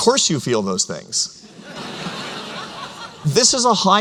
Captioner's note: laughter